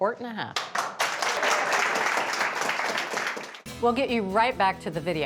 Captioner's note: audience claps